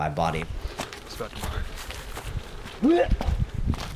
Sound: dry heaves

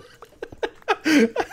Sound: laughing

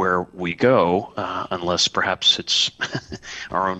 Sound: laughter

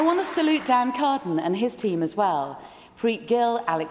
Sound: applause

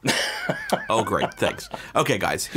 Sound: laughing

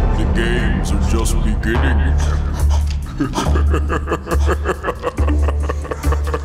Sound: laughs

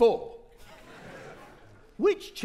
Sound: audience laughing

